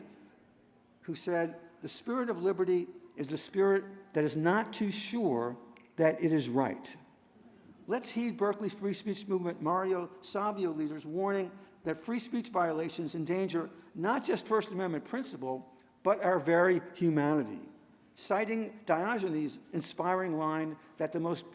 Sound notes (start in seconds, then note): none